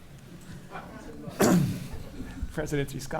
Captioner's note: laughing